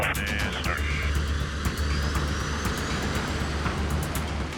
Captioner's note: propellors spin